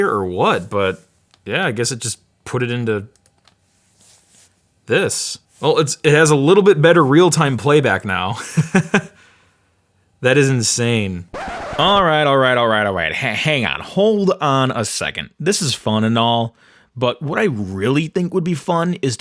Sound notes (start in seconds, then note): 8.9 laughs; 11.3 screeching noise